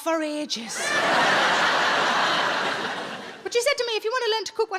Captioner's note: audience laughing